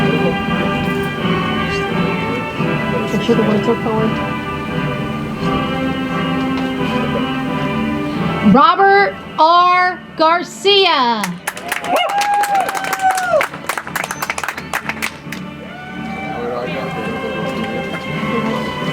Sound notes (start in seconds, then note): 11.2 audience applauds; 16.0 soft music